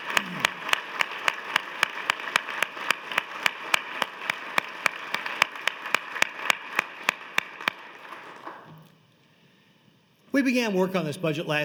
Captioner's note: applause